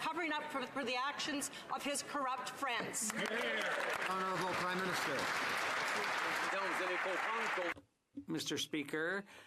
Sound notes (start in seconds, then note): 5.6 some Applause